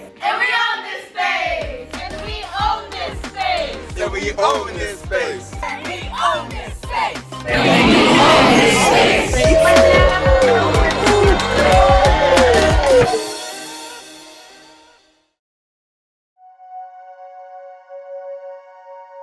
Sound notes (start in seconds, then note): 9.4 crowd cheering; 9.4 exciting music; 16.4 calm ambient music